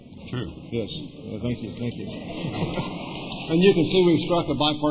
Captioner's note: laughter